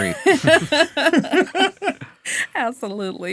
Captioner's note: all laughing